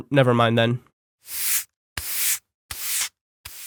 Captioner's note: sweeping